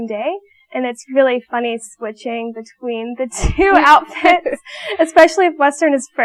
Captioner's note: laughing